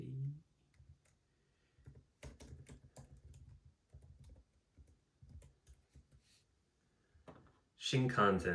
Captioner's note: typing in the background